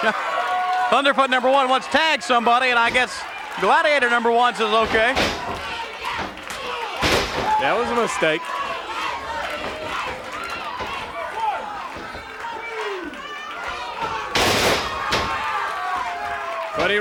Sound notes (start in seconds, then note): 0.2 chuckles; 4.8 foot thuds; 6.9 body thuds; 13.6 body thuds